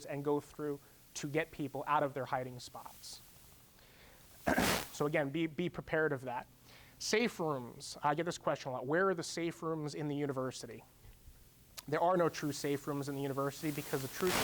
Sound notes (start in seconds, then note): 4.4 clearing throat